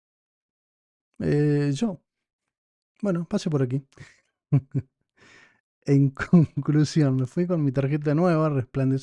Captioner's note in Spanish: risas